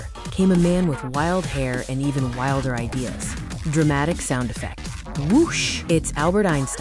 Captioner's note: dramatic sound effect: 'WOOSH!''